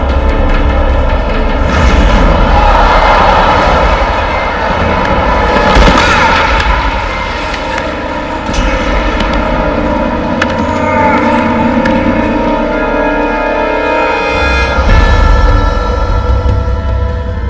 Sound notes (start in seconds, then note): 1.8 all cheering